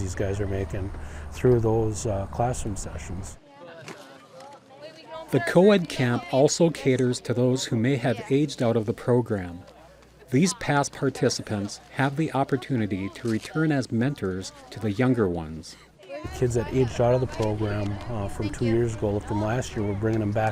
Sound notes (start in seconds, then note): 3.4 indistinct chatter